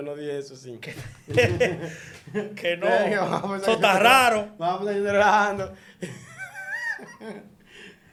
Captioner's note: laughs